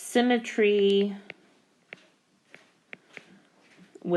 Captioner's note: keyboard Tapping